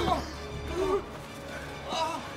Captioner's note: gasping; whimpers